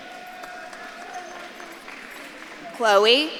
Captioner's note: audience claps and cheers